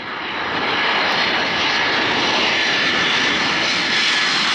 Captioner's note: plane engine roaring